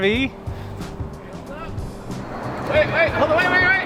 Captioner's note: shouts